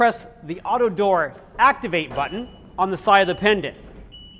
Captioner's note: 오토도어 작동